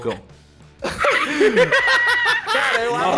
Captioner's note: everyone laughs